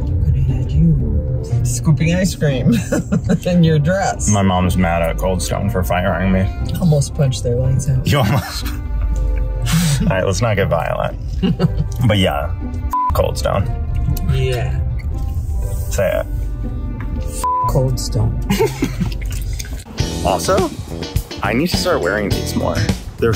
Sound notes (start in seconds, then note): 9.3 laughs; 12.9 beep; 17.4 beep; 18.4 laughs